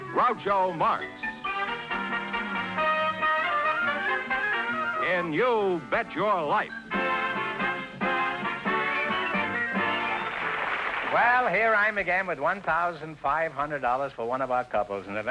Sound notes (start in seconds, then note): 1.2 theme music; 9.9 applause